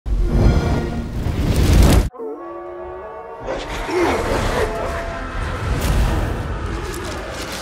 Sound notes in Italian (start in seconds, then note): 3.3 grido del Druido